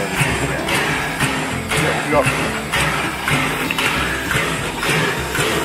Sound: metallic clanging

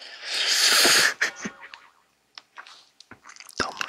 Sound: laughing

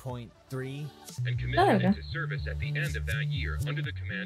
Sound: radio

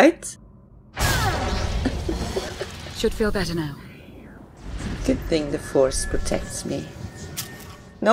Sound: chuckles

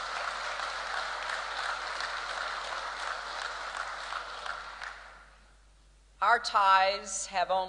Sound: applause

